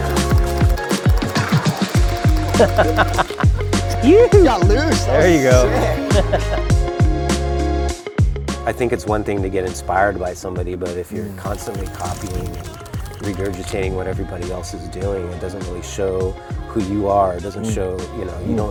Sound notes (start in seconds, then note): 2.4 laughing; 3.9 exclaiming; 6.4 laughs; 6.6 upbeat electronic music